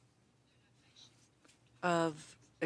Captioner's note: speaking French